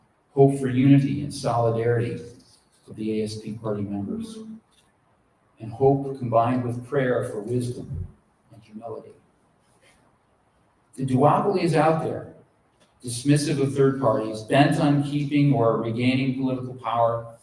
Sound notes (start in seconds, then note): none